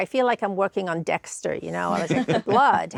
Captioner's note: hosts chuckle